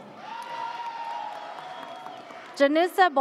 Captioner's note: audience cheers